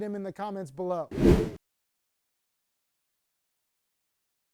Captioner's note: wind whooshing